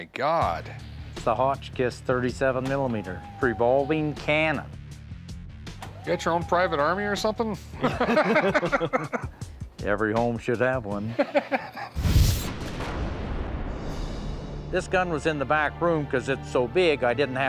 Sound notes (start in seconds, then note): 5.1 cannon whirs; 7.2 all laugh; 11.0 Rick laughs; 12.4 thunder rumbling